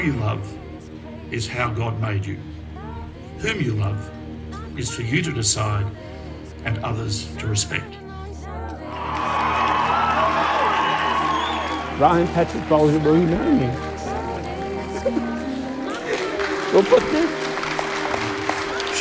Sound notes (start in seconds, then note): 8.8 cheering; 15.8 applause